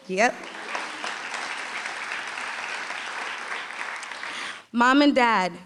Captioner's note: applause